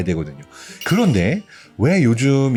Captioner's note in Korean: 강조되는 효과음